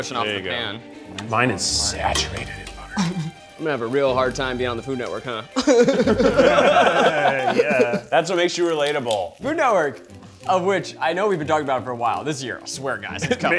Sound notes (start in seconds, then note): 5.5 all laughing together